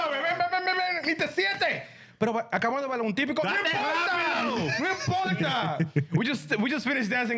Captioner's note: speaking Spanish